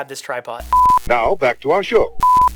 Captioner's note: beep